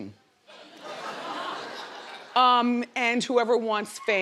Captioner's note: crowd laughs